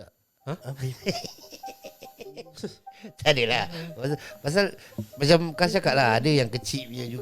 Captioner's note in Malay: ketawa